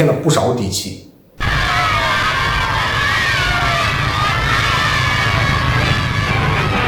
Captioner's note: cheering